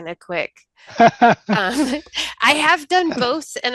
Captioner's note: laughing